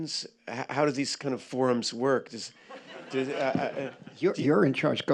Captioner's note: laughter